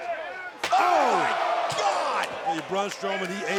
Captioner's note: crowd groaning